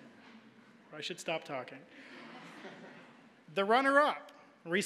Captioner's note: audience laughing; audience laughing